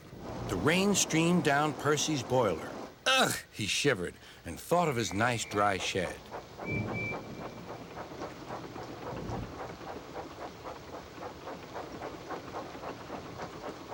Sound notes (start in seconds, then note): 5.3 toots